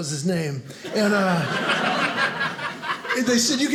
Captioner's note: audience laughing